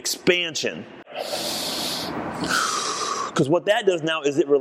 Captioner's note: inhaling/Exhaling